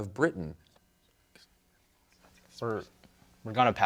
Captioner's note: team whispering